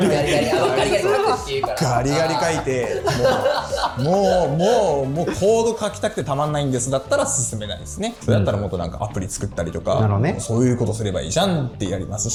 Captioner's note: laughs